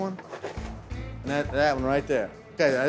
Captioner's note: chopping; chopping